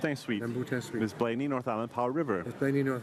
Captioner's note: speaking in French